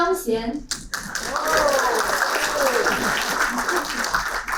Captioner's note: applauding